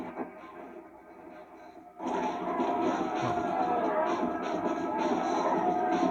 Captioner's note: zombie screams and galloping horse; music and zombie screams